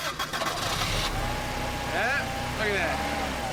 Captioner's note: engine starts